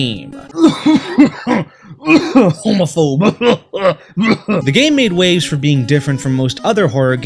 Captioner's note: cough